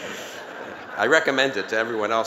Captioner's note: laughter